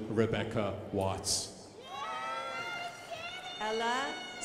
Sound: crowd applauding

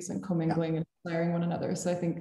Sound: audio glitches

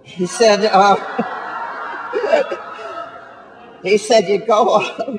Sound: audience laughing

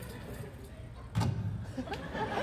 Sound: audience laughter; thump; audience laughing

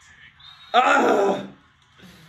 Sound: grunts

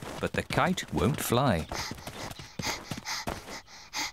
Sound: panting

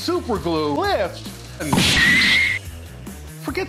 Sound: Glue setting off an explosion sounds and noises

